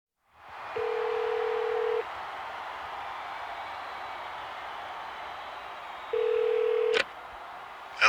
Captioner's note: applause